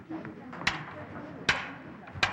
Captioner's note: clanking